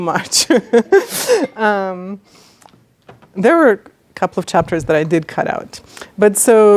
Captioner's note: laughs